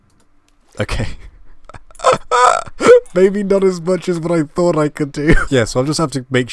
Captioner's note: laugh